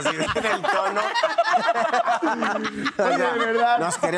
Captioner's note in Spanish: Risas